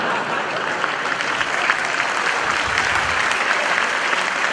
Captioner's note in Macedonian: аплауз